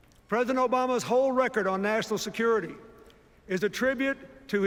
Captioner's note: none